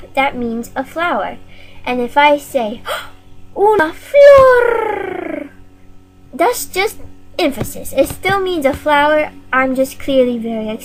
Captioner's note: gasp